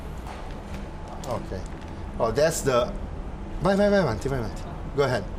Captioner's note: speaking Italian